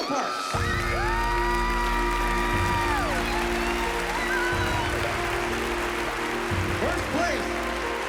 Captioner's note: cheering